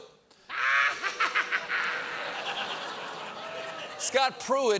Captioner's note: laughing